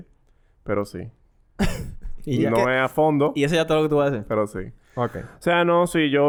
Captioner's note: laughs